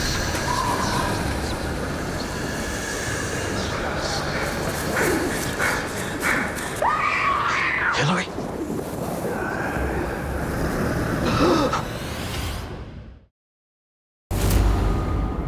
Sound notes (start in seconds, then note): 6.6 screams; 9.0 gasps